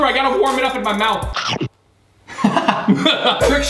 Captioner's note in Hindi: हंसी